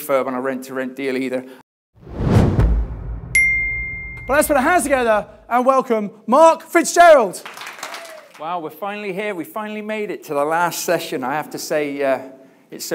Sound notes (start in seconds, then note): 2.0 logo swooshing; 3.3 bell dings; 7.4 audience applauding